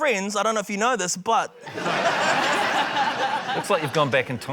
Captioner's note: laughter